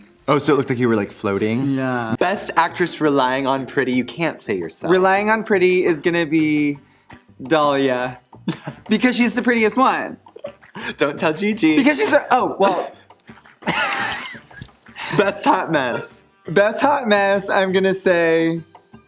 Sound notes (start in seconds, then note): 13.5 laughs